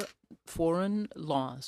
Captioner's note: speaking in french